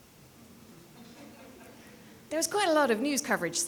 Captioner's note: people laughing